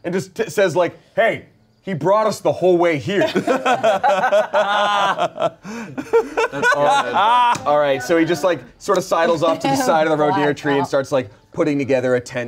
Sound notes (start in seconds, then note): 3.1 everyone laughs